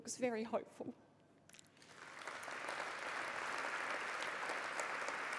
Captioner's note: applause